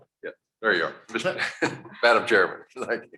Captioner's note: chuckles